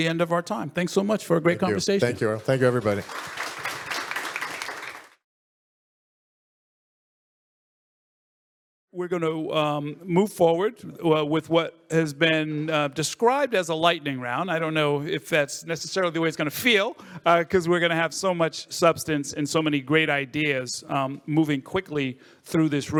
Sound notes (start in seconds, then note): 5.0 audience applauds